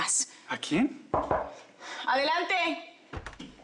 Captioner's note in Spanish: Toques en la puerta